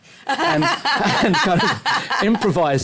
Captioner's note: laughter